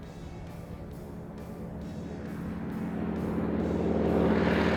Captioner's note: plane engine roaring